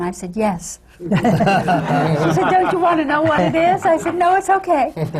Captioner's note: laughter